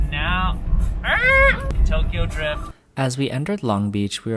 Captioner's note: screech